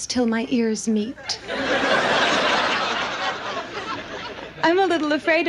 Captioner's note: audience laughs